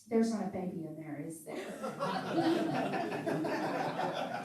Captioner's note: laughing